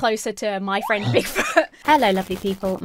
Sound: laughs

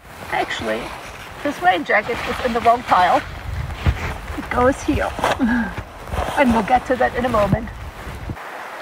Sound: laughs

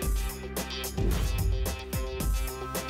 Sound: whoosh

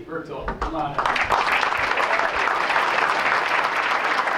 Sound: applause

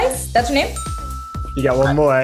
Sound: ding sound

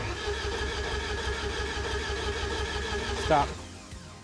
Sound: engine chugging

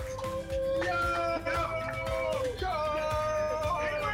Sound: all exclaiming

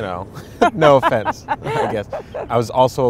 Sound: laughing

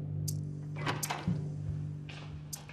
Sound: opening of door

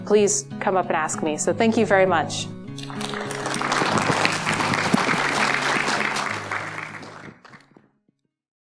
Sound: clapping

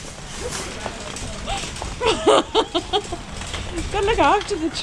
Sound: laughs

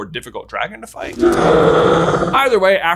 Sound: dragon roars

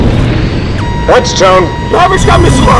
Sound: target lock beeps

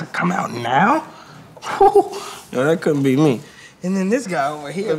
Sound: chuckles

